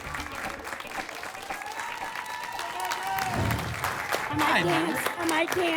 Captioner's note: applause and cheering